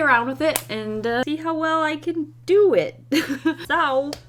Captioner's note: laughs